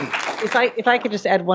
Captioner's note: applause